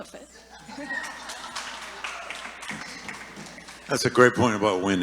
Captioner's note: audience applauding